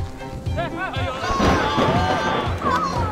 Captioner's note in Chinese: 欢呼中